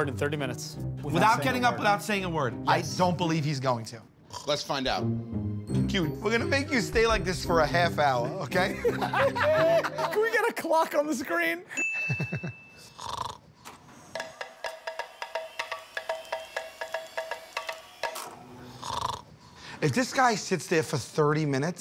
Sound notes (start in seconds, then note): 8.2 laughter